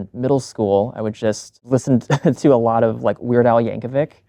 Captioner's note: chuckles